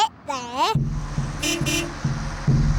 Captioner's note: horn beeps